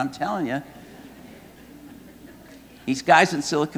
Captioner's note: audience laughing